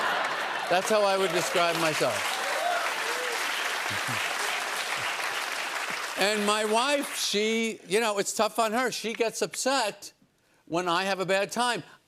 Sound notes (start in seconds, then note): 2.6 cheers and applause